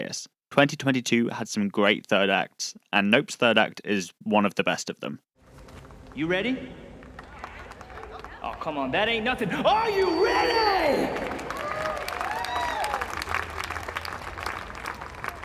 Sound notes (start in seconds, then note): 6.7 mild applause; 11.4 applause